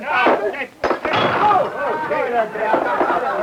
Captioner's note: smashing beer bottles; banging table; crowd jeering